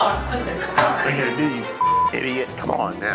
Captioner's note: beeps